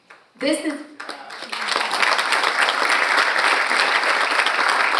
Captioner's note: audience applauds